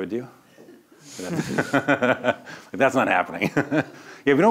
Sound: laughs

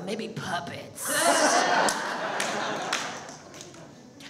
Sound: audience laughs

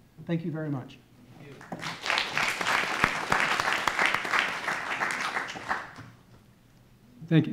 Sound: audience applauding

